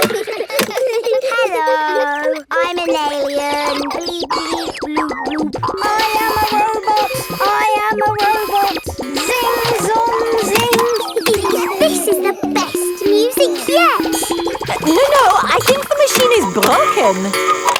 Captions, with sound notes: (KIDS GIGGLING) Hello, I'm an alien. Bleep, bleep, bloop, bloop! I am a robot. I am a robot. Zing! Zong! Zing! (GIGGLES) This is the best music yet! No, no I think the machine is broken.